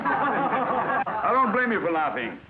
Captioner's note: class laughs